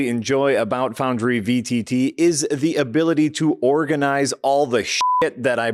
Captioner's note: beep